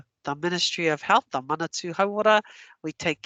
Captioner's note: non-english